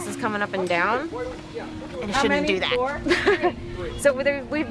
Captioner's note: laughs